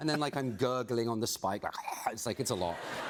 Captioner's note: gurgling